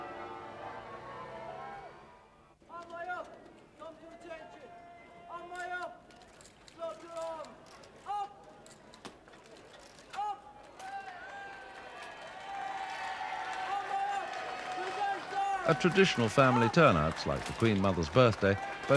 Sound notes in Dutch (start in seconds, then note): 2.7 soldaat schreeuwt; 10.8 menigte juicht